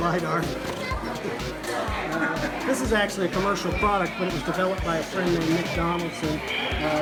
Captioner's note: chuckles